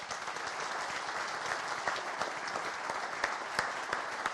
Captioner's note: audience applauding